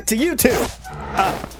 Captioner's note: unzips